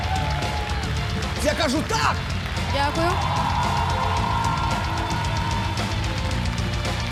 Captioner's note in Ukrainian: оплески